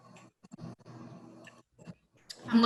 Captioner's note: silence